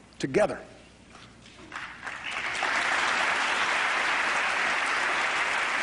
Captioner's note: applause